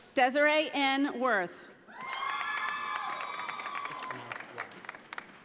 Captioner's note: audience applauding